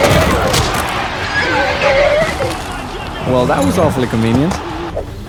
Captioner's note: neighing